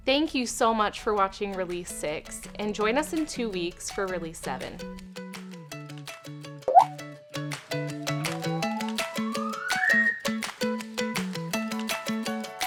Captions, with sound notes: Thank you so much for watching Release Six, and join us in two weeks for Release Seven. (upbeat music) (water droplet splashing) (upbeat music)